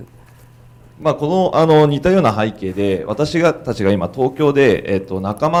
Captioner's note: speaking foreign language